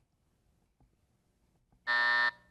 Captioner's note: buzzer buzzing